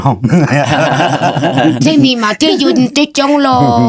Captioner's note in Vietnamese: tiếng cười